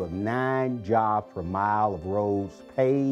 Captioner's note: none